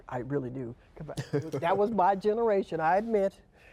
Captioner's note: laughs